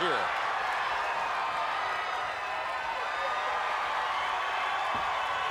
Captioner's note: crowd cheers